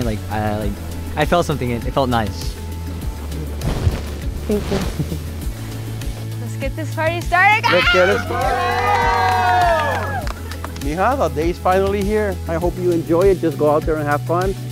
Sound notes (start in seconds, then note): 4.4 laughing; 7.6 all cheering and applauding